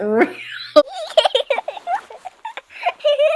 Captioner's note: laughing